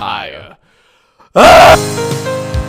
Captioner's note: screaming into the void